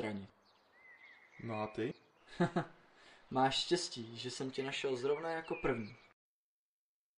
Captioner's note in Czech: smích